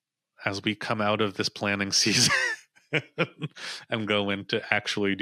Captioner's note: chuckles